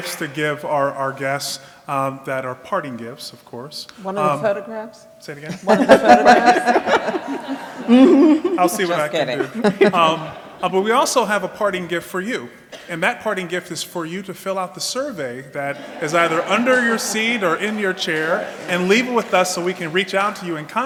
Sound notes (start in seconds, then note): 5.4 laughing